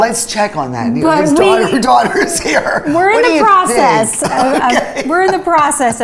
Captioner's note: laughs